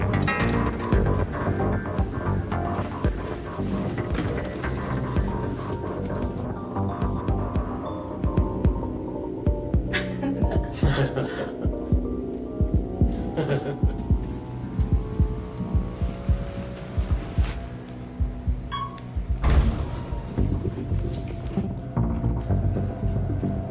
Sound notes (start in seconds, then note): 0.1 dramatic music continues; 10.0 elevator beeping; 10.0 people laughing; 20.8 dramatic music